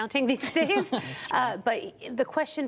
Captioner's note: laughter